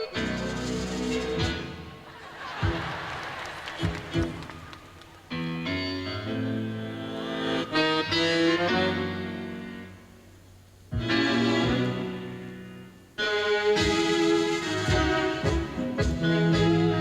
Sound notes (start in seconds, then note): 1.9 audience laughing; 10.7 playing tango music